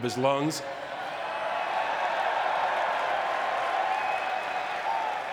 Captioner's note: audience cheering and clapping